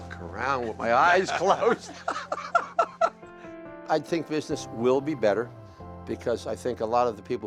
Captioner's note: laughs